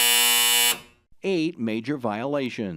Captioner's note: buzzer